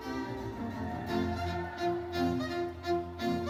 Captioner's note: audience cheering; bright lively music continues